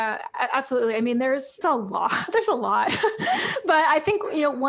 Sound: laughs

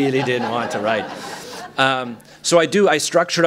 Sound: laughter

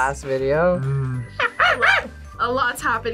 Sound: imitates monkey

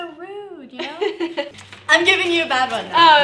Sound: laughing

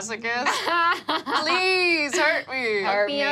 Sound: laughing

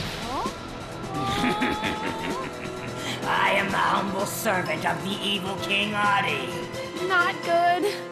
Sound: evil laughing

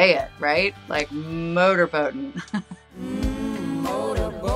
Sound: chuckles

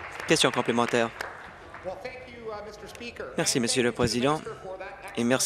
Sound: applause

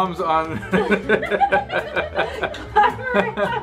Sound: dad laughing

